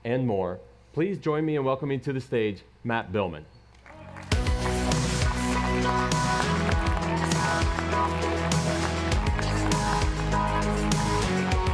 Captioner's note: applause